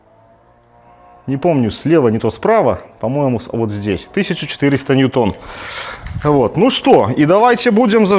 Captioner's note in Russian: фыркает